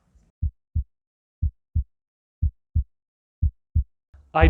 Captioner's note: heartbeat